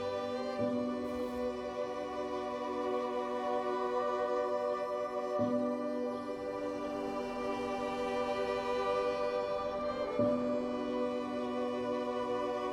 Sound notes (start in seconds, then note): 7.2 birds chirping; 7.2 soothing music continues